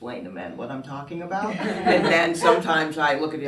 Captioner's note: everyone laughs